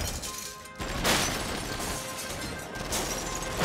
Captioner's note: gunfire